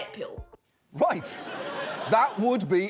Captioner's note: laughter